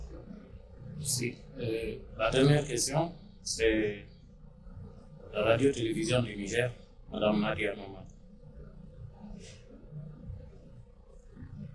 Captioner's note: in French